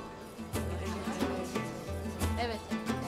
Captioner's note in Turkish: Konuşma sesleri